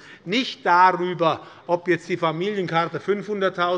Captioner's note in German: none